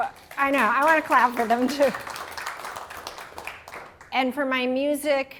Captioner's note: applause